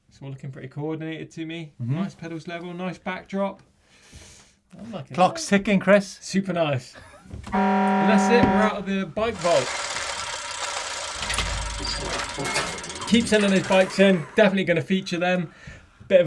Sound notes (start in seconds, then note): 7.5 siren wailing; 11.1 metallic grinding